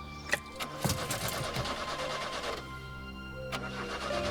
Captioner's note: engine cranks